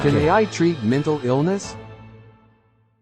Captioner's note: voiceover